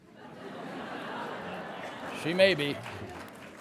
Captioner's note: laughter